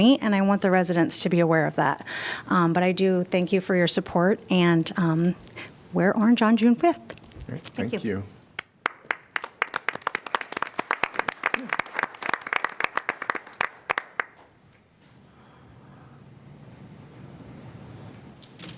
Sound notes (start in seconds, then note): 8.6 applause